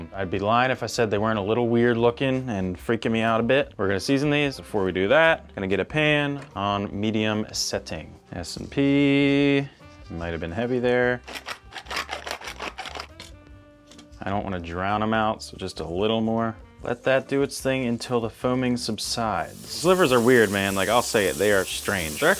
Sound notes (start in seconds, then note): 11.6 grinder clicking